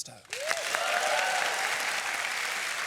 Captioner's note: applause